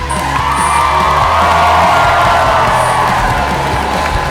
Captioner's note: audience cheering